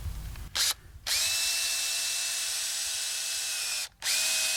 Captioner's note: drill whirs